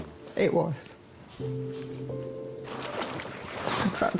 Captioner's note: solemn music; water splashing